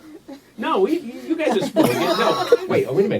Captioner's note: audience laughs